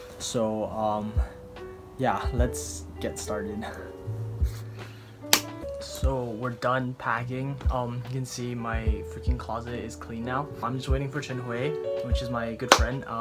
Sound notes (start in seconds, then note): 5.3 clap